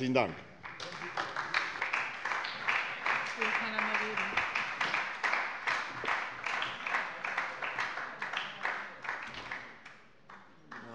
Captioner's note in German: Beifall bei der SPD